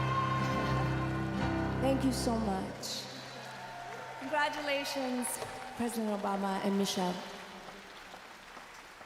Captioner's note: applause